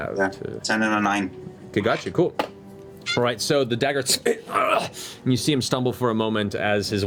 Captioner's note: impact sound